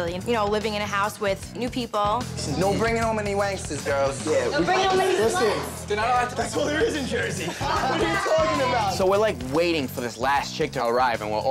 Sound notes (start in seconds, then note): 6.3 laughing